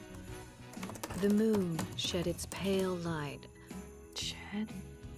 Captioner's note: typing